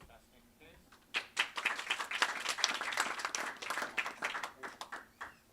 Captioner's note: audience applauds